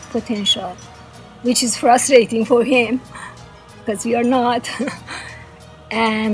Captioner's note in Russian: смеется